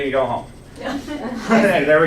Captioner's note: laughs